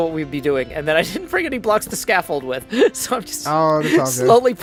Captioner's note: laughs